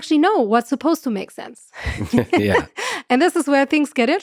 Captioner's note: laughs